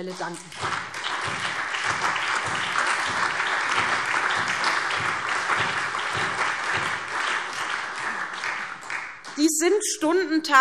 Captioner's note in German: Allgemeiner Beifall